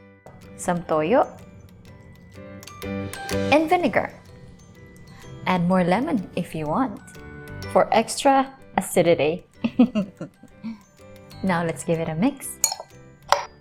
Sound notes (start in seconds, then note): 9.6 chuckling; 12.4 spoon clanking